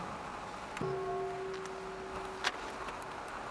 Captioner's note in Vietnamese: chuông